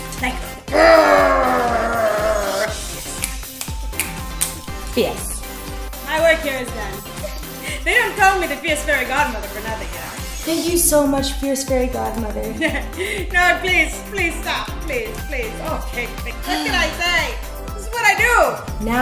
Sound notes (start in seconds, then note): 3.0 snaps fingers; 12.5 chuckles